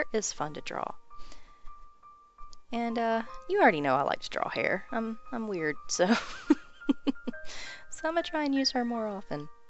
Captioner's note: weird laughter